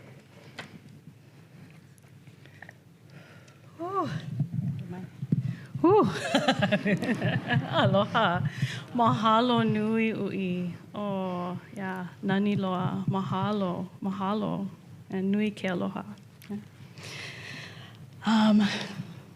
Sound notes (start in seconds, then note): 6.1 laughter